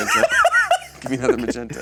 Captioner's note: laughs